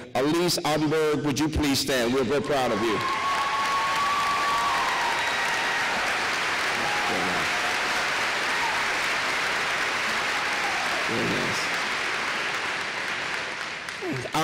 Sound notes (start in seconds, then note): 4.5 applause